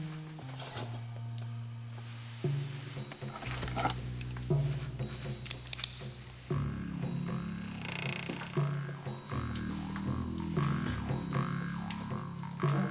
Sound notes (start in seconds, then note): 0.9 door opens; 3.7 gun unholstering, cocking